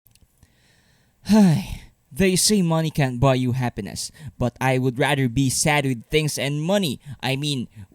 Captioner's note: sigh